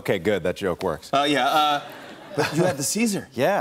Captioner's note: light laughter